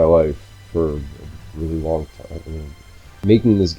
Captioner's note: trails off